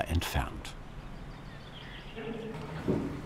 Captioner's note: birds chirping